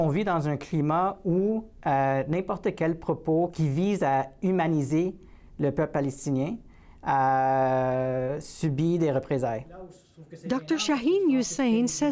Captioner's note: speaking French